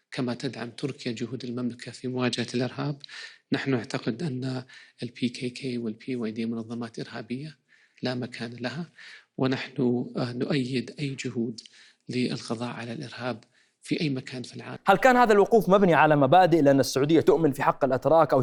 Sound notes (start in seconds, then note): none